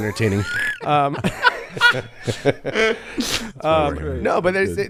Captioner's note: everyone laughs